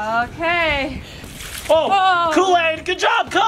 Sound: water splashing

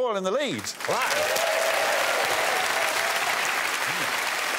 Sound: audience cheers and claps

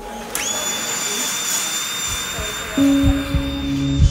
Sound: saw whirring; tense music

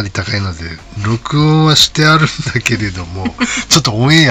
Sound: laughs

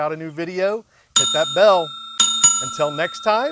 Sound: bell ringing

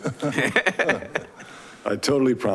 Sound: laughs

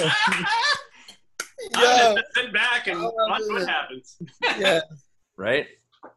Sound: laughing

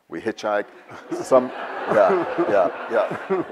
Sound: audience laughs

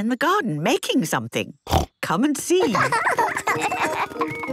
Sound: snorting; laughter

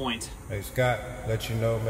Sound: disembodied Voice

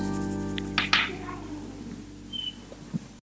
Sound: Fifi growls

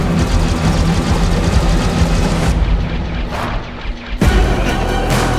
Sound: dramatic music builds; flashes whirring; dramatic music

